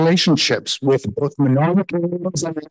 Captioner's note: faintly speaking